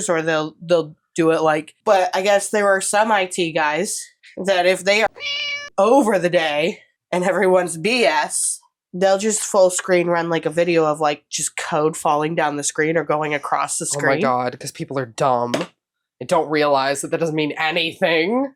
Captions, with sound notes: or they'll, they'll do it like but I guess there are some IT guys that if they are [MEOW]ing over the day and everyone's BS... They'll just full screen run like a video of like just code falling down the screen or going across the screen. Oh my god, because people are dumb and don't realize that that doesn't mean anything.